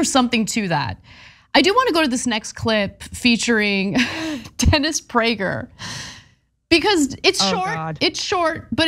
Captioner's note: laugh